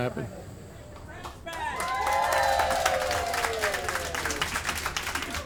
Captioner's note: passengers applauding